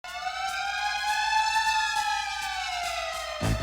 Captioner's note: siren